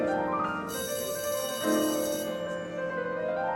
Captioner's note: bell rings